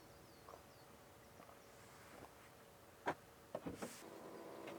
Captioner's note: motor rumbling